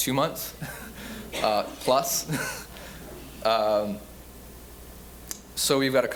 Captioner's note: laughing